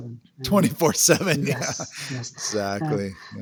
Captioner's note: laughs